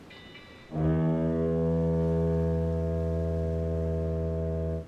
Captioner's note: train horn bellowing